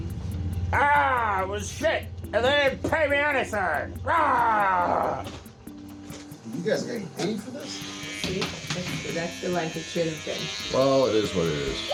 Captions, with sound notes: It was shit. [Skeletal voice] ...And they didn’t pay me anything! [Skeletal voice] Argh!! [Skeletal voice] You guys getting paid for this? See? That’s- that’s the length it should have been. [Electric buzzing] Well, it is what it is...